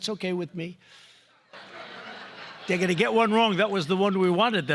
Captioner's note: laughter